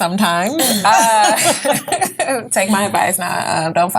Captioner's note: all laugh